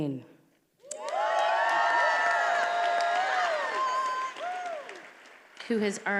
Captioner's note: attendees applauding and cheering